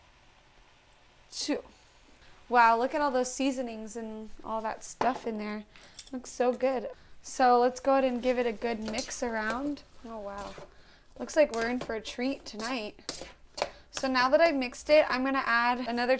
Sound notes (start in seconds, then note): none